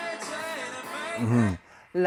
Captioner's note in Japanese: 笑い